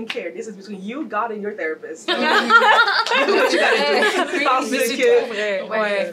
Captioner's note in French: rires